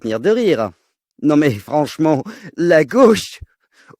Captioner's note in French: rire